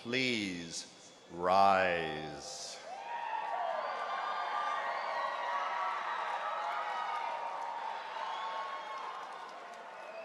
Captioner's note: applause